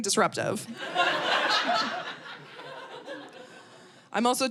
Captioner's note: audience laughing